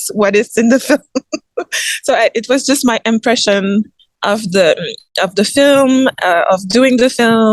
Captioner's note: giggles